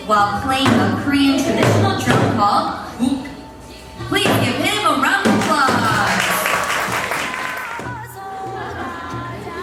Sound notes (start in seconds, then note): 5.4 group applauding